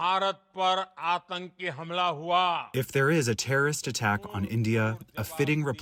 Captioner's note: through translator